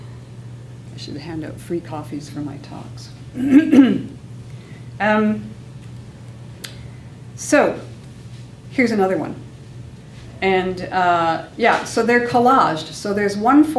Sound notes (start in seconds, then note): 3.3 clears throat